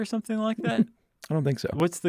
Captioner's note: laughs